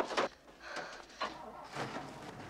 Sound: truck engine starting

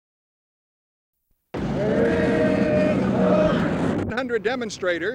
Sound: crowd noise

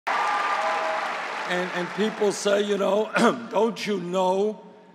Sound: applause

